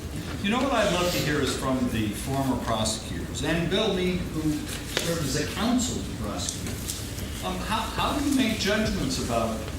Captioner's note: laughing